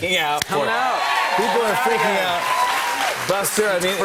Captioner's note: cheers and applause